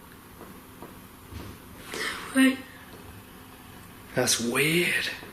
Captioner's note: faint tapping